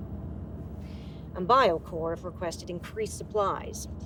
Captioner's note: none